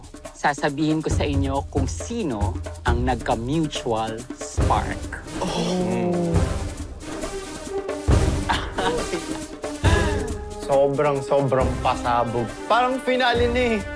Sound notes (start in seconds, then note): 8.4 chuckles